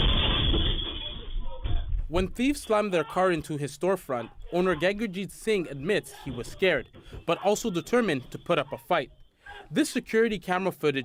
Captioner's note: glass breaking